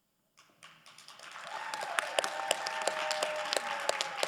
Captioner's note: crowd applauding